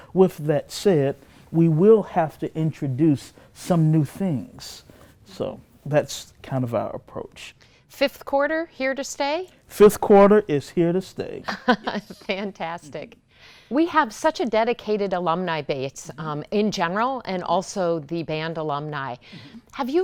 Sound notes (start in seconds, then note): 11.5 laughs